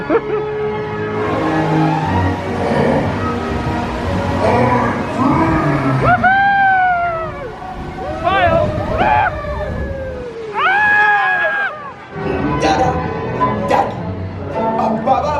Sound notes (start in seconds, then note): 0.0 laughing; 10.8 screaming